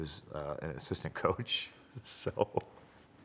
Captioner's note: laugh